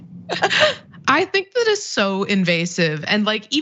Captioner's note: laugh